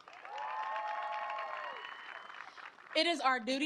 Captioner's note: applause